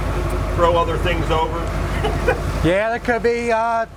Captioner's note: laughs